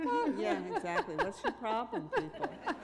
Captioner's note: laughter